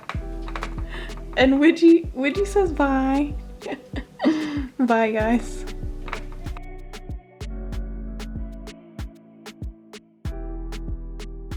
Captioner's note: chuckles